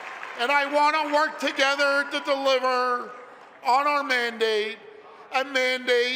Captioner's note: applause